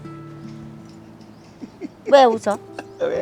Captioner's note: giggles